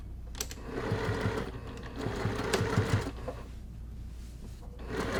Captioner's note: machine whirring